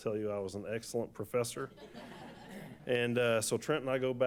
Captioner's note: laughter